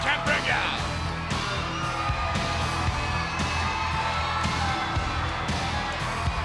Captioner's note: crowd cheering; hard rock music